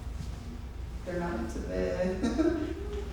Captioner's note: laughs